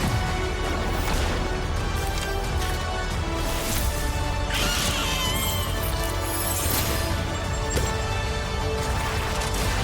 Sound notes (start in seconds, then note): 4.5 squeals